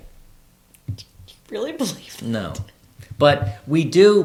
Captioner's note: laughs